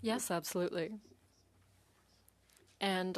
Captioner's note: speaking in French